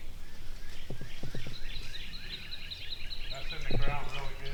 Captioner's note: birds chirping; indistinct chattering